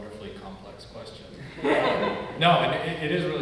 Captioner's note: audience laugh